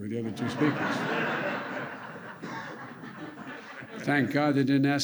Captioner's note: laughter